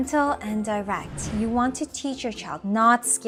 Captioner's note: text bubble whooshing